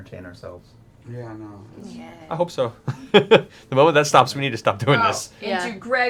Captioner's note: laughs